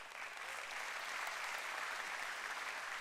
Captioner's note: applause